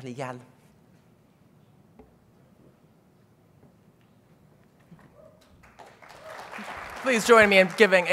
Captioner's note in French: applaudissements